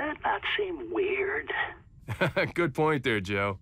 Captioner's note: laughs